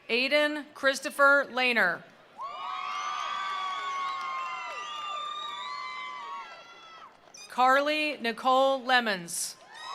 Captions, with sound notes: Aiden Christopher Lanner. (attendees applauding) (attendees cheering) Carly Nicole Lemons.